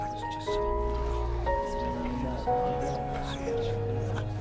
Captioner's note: crowd whispers